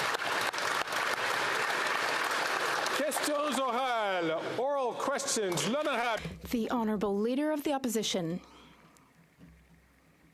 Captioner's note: some Applause